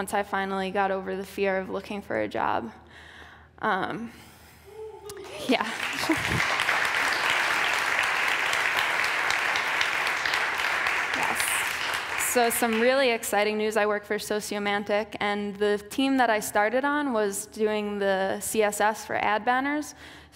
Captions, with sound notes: Once I finally got over the fear of looking for a job. (applause) So, some really exciting news. I work for Sociomantic. The team I started on was doing the CSS for ad banners.